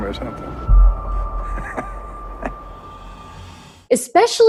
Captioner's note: laughs